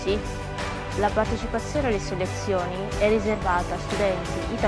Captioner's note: Italian